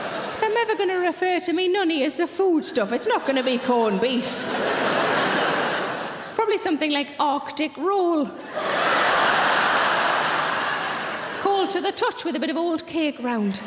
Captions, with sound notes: If I'm ever going to refer to me nunny as a food stuff, it's not going to be corned beef. (audience laughing) Probably something like Arctic roll. (audience laughing) Cold to the touch with a bit of old cake around.